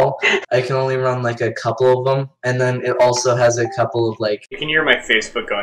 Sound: facebook notification sound

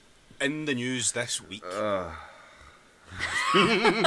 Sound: extended sigh

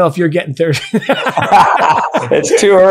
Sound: both laughing

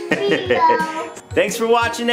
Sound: dad laughs

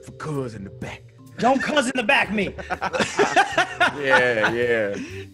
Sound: laugh

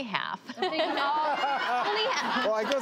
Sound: laughs

